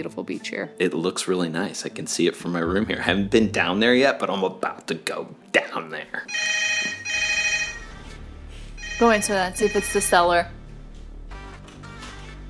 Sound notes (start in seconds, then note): 6.2 phone ringing